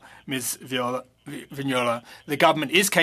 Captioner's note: speaking French